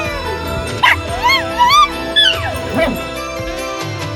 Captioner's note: hisses and then yowls; barks then howls